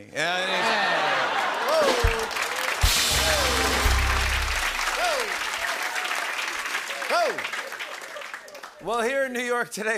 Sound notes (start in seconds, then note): 2.8 rimshot; 5.4 applause